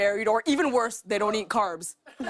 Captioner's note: laughter